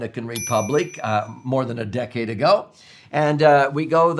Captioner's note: bell dings